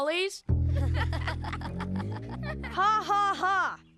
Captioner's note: laughing